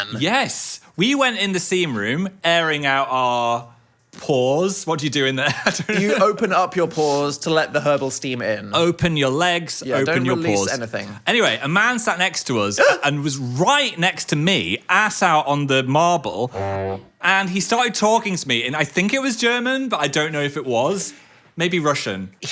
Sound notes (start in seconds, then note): 5.6 laughs; 12.8 yelps; 16.5 horn honks